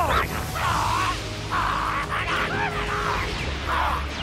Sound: Covirknight screeching

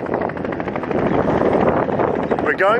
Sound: helicopter noise

